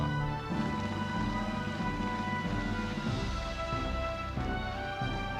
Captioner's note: audience applauding